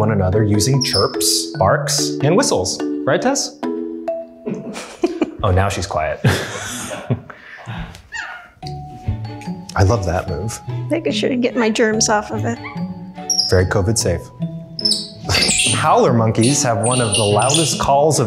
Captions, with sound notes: using chirps, barks, and whistles. Right, Tess? (laughs) - Oh, now she's quiet (laughs) (upbeat music) I love that move. - Making sure to get my germs off of it. - Very COVID safe. Howler monkeys have one of the loudest calls